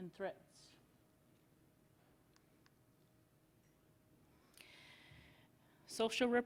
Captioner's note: silence